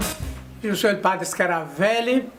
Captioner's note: speaking spanish